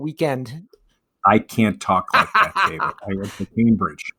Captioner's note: laughs